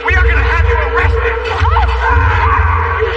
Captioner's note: screang